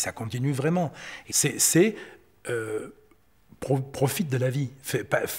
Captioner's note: French spoken audio